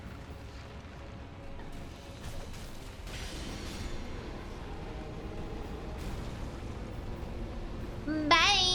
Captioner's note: gunfire